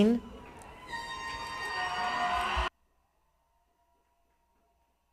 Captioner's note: people cheering